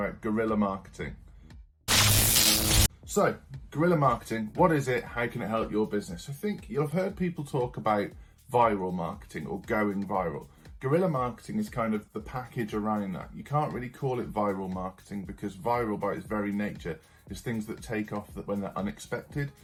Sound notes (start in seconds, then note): 1.8 electric buzz